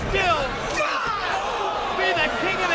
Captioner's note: Tanaka yells